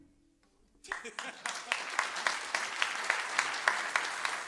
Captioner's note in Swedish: applåder